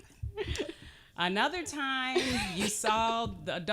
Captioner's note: laughing